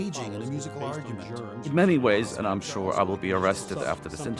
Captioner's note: men chattering